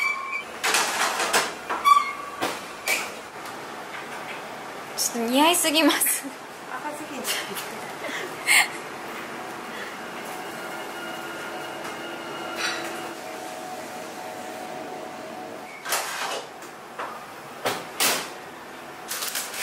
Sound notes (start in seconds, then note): 7.3 laughs